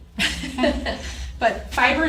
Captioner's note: laughs